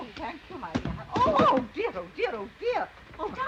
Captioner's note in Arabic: ضربة قوية